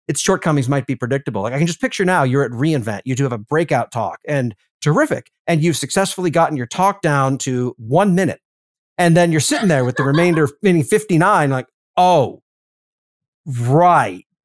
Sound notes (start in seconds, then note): 9.4 laugh